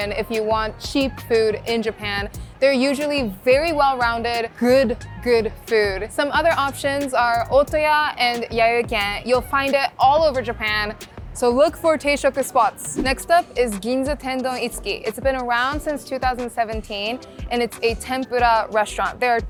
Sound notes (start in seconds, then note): 11.9 speaking Japanese